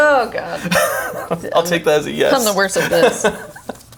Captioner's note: laughs